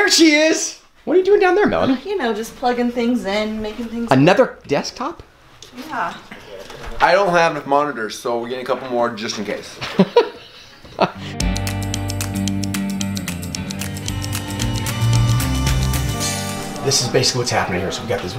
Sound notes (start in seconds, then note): 9.8 laughs; 11.2 upbeat music